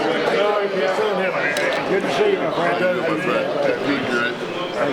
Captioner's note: crowd chattering